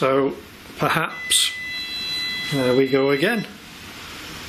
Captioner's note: machine beeping